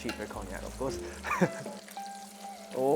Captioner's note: chuckles